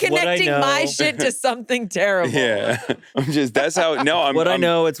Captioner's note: chuckles